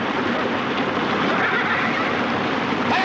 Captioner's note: neighing